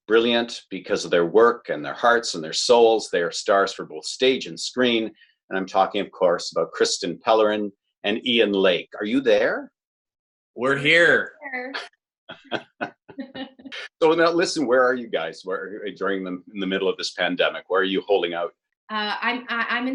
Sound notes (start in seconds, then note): 12.3 laughing